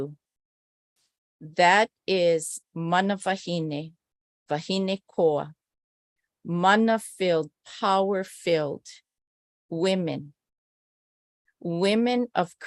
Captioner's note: non-english speech